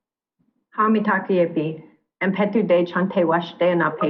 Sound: speaking another language

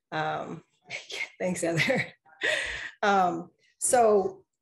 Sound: chuckles

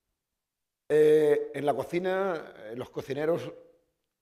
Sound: speaking spanish

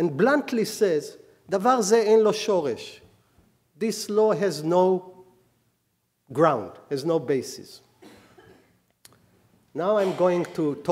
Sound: speaking hebrew

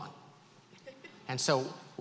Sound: woman laughs

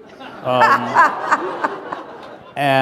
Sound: laughter

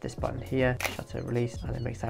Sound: camera clicks

